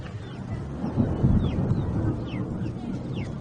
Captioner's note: children chattering; thunder rumbling